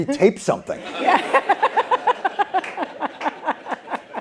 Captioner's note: laughter